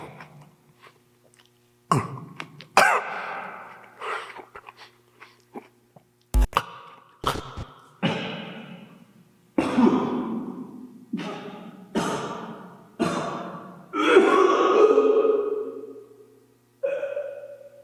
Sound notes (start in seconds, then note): 0.1 Jacob coughing; 6.7 Jacob coughing; 7.2 static crackles; 14.5 Jacob retching